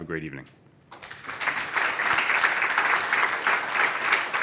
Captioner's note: applause